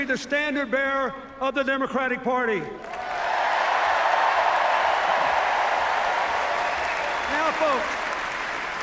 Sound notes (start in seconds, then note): 2.8 cheers